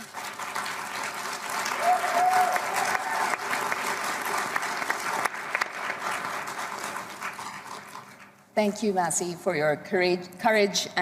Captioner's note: applause